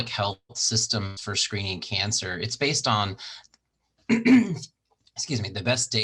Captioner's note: clears throat